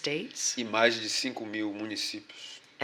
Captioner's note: speaking portuguese